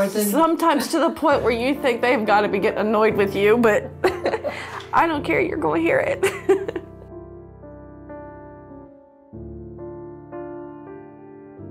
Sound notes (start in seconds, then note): 4.0 laughs